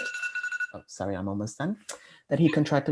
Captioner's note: alarm rings